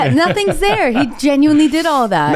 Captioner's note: laughs